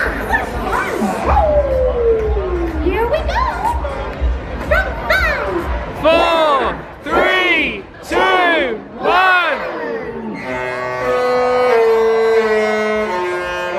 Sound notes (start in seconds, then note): 10.4 horn honking